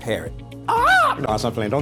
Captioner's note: caws like a bird